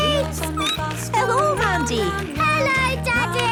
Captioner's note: laughter; squeaking